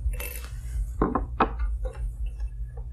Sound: thumps

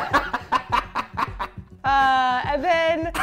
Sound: laughs

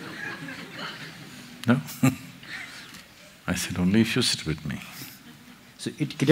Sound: laughs

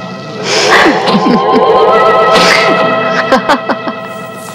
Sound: lady laughs

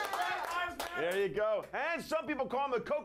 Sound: audience cheering

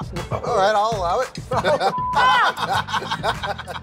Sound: laughter

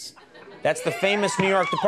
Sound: audience cheers

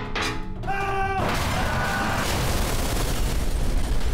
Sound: screaming

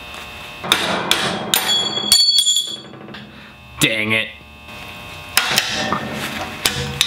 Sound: metal breaking; more metal breaking

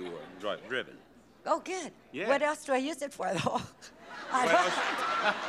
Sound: laughs

